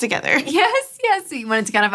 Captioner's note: laughing